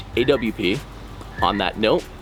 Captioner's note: sound of frog croaking continuing